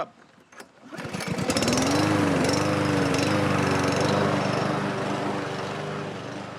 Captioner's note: engine buzzes